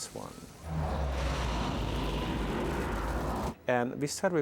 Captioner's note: deep roaring